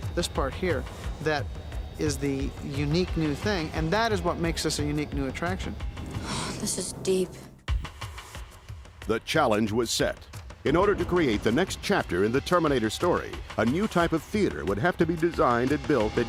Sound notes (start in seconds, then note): 6.1 sighs; 7.9 suspenseful music